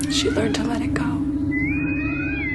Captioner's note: bosun whistle